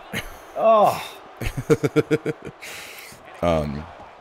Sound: laugh

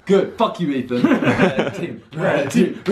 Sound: laughing

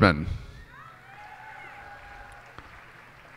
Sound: cheers and applause

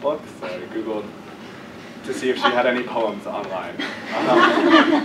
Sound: laugh

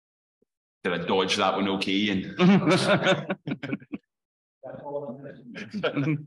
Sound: laughter

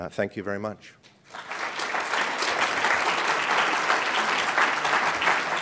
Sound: applause

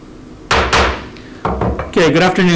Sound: gavel banging

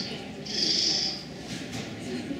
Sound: owl Screech

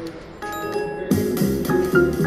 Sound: bell dings; playful jazz music

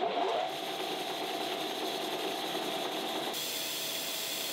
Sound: machine whirring

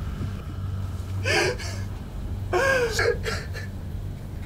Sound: Bryan crying

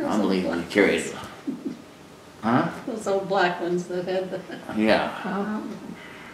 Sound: laughs

